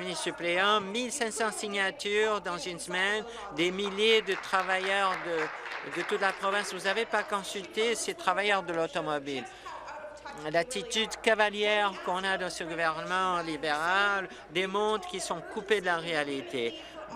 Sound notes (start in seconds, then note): 8.1 applause